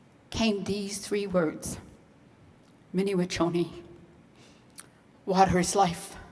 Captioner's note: speaking in foreign language